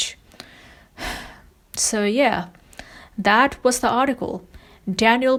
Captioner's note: sighs